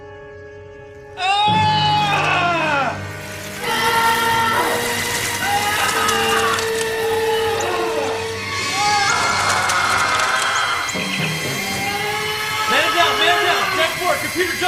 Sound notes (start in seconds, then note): 1.2 numerous screams